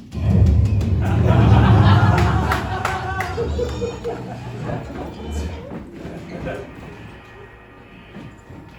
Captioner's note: universe shifting sound